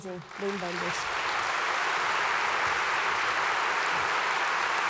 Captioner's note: applause